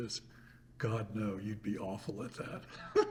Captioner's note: laughs